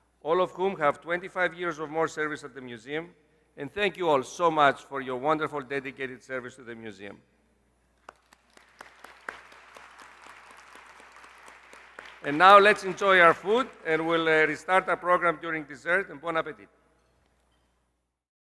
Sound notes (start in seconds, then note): 8.0 applause